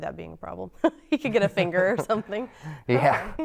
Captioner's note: chuckles